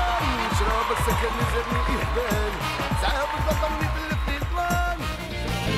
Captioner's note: cheering